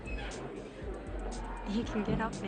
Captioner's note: people mumble and chatter in the background